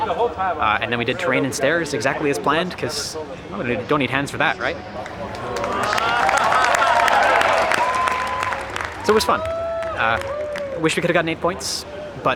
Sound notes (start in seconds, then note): 4.8 crowd clapping and cheering